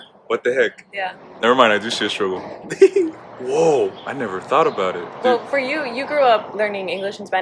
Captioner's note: heehee